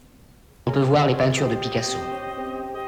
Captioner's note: speaking french